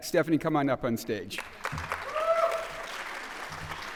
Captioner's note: applause